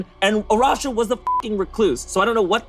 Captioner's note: beep